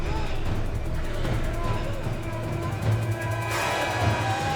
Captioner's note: dark ominous music; Bryn wailing